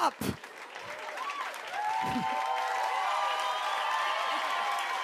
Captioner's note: cheers and applause